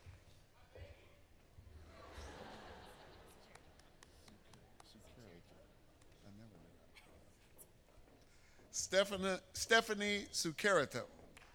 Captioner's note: applause